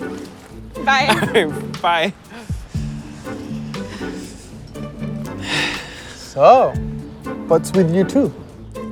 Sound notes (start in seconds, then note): 5.4 sighs